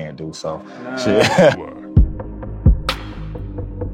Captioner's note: laughter